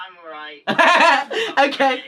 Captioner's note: laughs